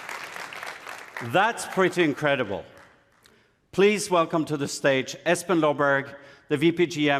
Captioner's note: applause